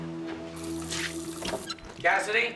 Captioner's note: faucet running